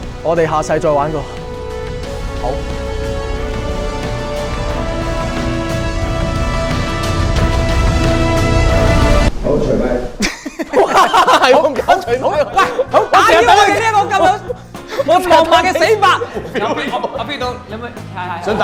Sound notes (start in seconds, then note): 10.2 laugh